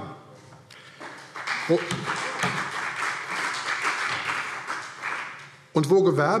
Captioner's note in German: Beifall CDU und BÜNDNIS 90/DIE GRÜNEN